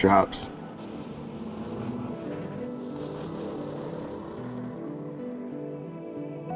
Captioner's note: truck engines roaring; gentle music